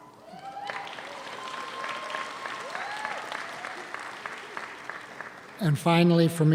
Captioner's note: audience cheers; audience applauds